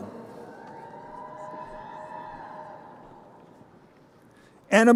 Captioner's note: crowd cheering